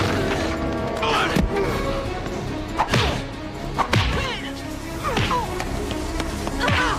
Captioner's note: grunts; thuds